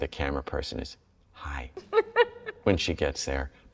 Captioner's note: lisa laughs